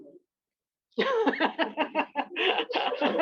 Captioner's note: laughter